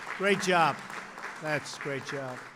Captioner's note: applause